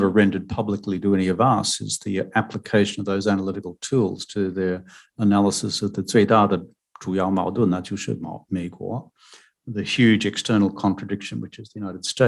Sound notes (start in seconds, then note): 7.9 speaking mandarin